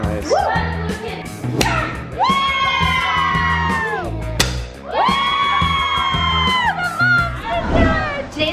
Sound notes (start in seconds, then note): 1.9 kids cheering